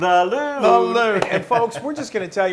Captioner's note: laugh